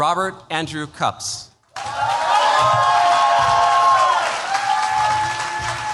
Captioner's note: cheers, applause